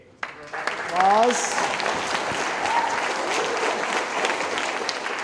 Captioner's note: audience applauding